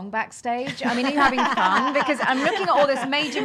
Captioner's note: laughing